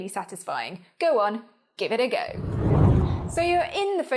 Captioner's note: air whooshes